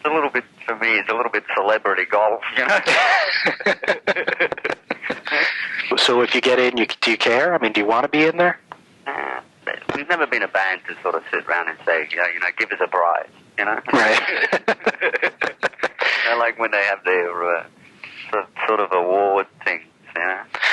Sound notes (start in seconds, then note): 2.5 laughs; 13.9 laughs